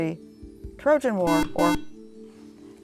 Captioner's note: buzzer